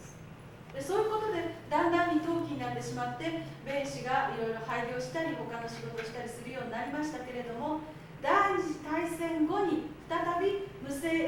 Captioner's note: speaking Japanes